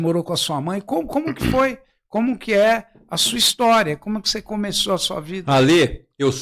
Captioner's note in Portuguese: limpando a garganta